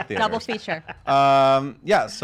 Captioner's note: laughs